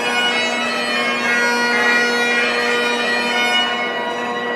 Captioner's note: bell